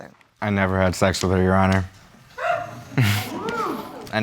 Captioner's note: audience exclaiming; laughs